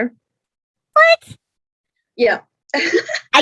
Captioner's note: laughs